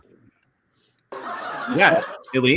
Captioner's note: audience laughing